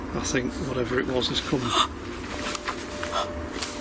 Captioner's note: gasps